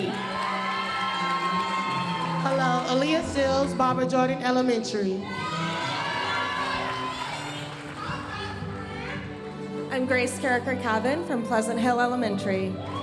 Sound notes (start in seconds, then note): 0.0 audience cheering and applauding; 5.2 audience cheering and applauding; 7.2 audience chattering; 12.7 audience cheering and applauding